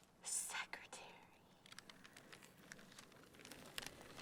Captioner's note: whispers